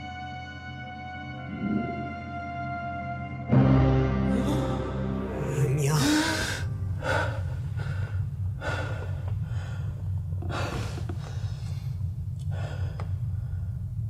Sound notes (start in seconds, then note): 5.9 gasps for breath